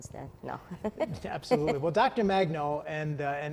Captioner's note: laughs